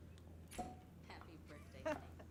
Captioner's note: bottle popping; Chelsea and Tom laughing laughing